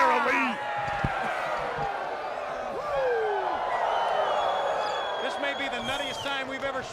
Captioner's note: crowd cheering